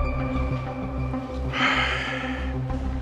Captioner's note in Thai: เสียงถอนหายใจ